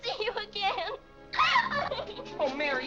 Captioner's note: Mary cries